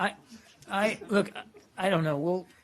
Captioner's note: laughter